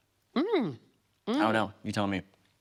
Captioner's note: hums positively